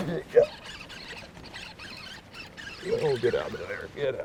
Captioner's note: reel cranking